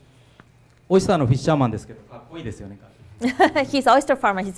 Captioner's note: speaking foreign language